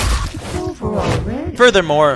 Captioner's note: dying Noises